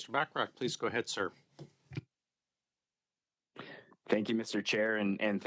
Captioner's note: speaking French